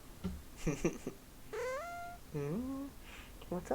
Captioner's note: Darla mreows